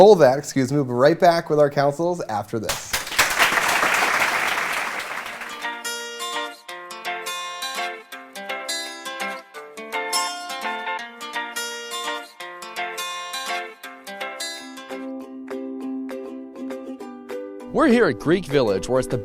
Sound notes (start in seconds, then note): 2.6 applause